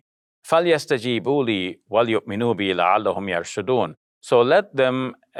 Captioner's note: speaking in foreign language